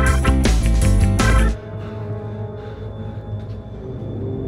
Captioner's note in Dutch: vrolijke reggae; gehijg